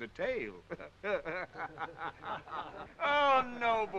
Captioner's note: men chuckling